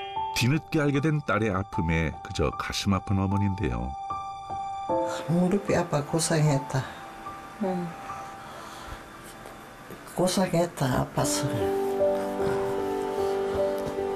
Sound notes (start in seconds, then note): 2.9 voiceover